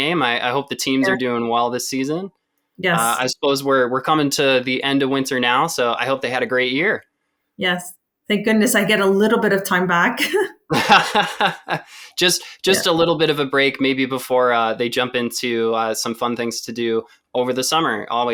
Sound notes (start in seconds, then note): 10.7 laughs